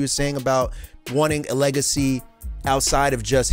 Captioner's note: none